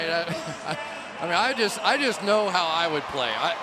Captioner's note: chuckles